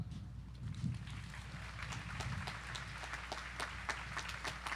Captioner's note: audience applauding